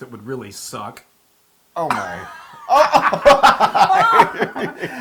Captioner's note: laugh